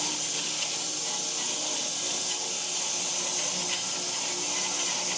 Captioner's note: saw buzzing continues